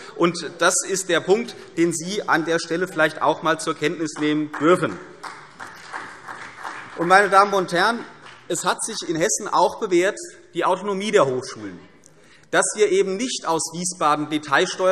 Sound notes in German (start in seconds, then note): 4.1 Beifall CDU und vereinzelt BÜNDNIS 90/DIE GRÜNEN